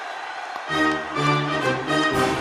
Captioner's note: applause